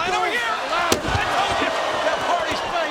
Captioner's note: body thuds